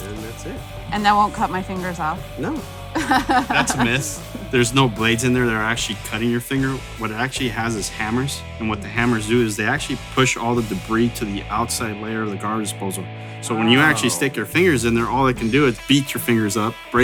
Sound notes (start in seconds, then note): 2.9 laughs